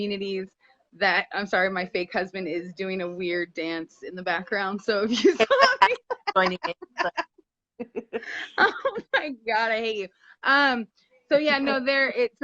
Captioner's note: both laugh